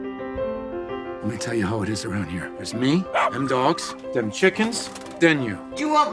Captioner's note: dog barks